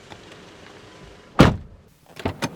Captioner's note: door Thud